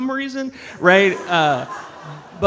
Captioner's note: audience laughs